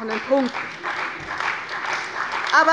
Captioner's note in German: Beifall bei der CDU